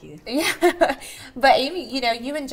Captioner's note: chuckles